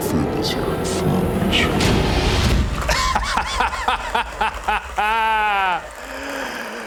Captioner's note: laughing maniacally